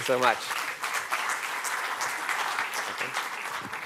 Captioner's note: applause